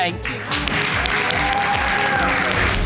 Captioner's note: crowd cheering